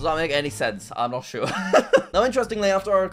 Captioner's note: laughs